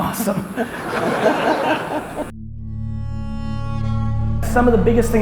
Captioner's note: audience laughs